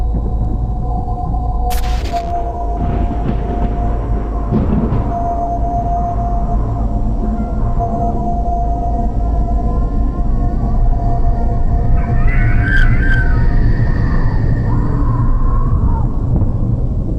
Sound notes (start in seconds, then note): 11.9 Woodcrawler screeching